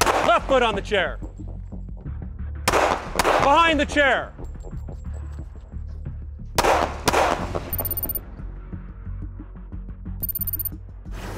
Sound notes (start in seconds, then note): 2.7 gun fires; 6.6 gun fires; 7.6 digital beeping